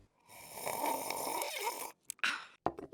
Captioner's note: slurping